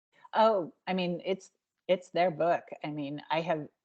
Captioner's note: none